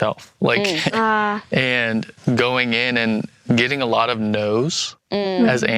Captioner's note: laughs